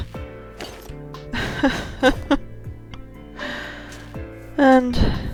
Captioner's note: sob-laugh